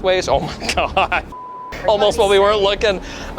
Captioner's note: beeps